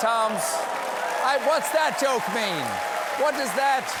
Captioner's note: cheers and applause